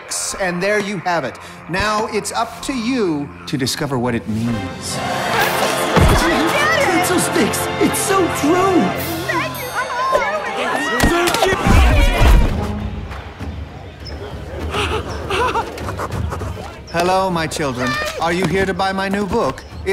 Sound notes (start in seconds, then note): 10.8 all grunting; 14.6 exclaims